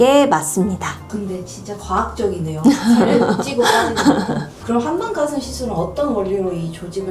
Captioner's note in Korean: 웃음